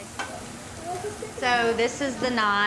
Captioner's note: food sizzling